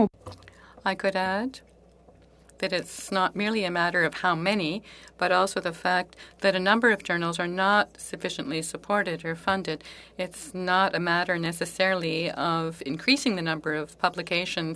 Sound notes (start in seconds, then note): 3.8 speaking French